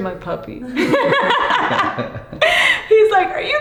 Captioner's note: laughs